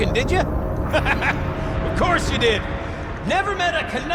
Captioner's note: laughs